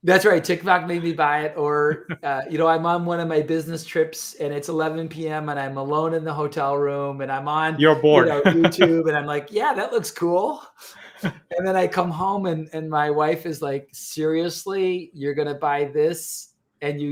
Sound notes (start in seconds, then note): 1.8 chuckles